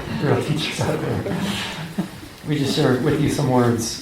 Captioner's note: laughter